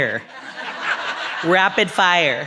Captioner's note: audience laughs